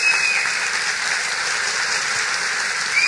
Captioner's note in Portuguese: Applause